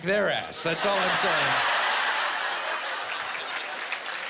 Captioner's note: laughing and applause